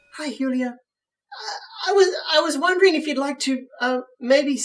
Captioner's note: stammering